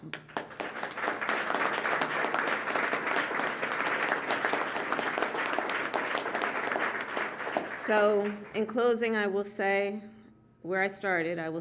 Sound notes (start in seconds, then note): 0.0 applause